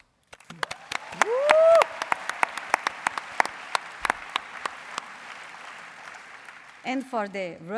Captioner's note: applause